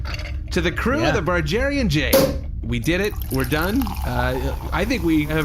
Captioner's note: pops champagne and starts pouring